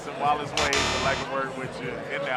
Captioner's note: X buzzes